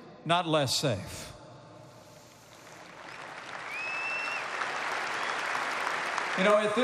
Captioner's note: applause